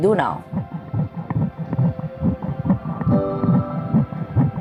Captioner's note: heart beating